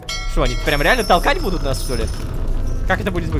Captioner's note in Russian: Звук корабельного колокола